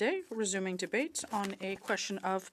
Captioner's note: speaking French